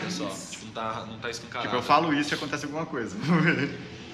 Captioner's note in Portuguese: risos